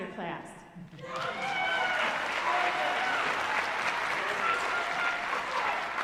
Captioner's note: applause